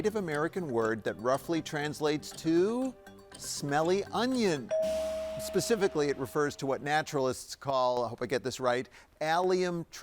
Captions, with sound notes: that roughly translates to smelly onion. (tone chimes) Specifically, it refers to what naturalists call, I hope I get this right, Allium tricoccum,